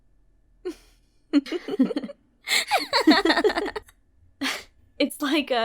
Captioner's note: laughing